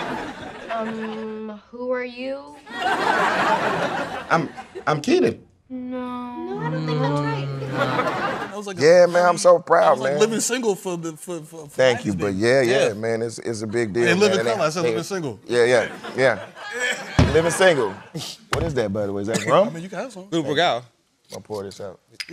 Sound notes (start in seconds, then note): 0.0 laughter; 2.6 laughter